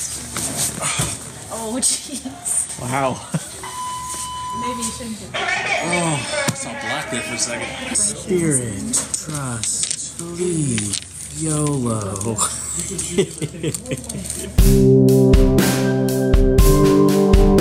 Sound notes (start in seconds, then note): 12.1 laughing; 14.6 end music playing